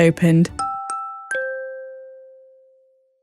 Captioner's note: doorbell